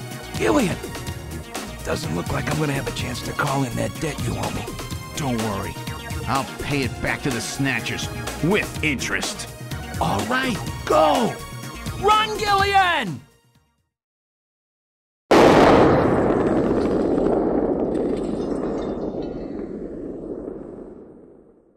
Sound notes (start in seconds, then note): 15.3 explosion